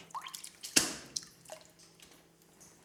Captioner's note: splashing